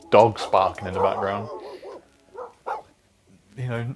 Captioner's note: dog barks